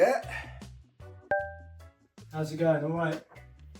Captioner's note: messenger chimes